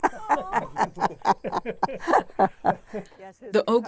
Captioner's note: laughter